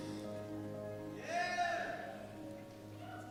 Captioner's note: cheer